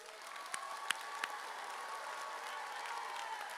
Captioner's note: audience cheers